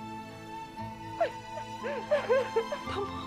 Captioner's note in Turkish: Ağlama sesi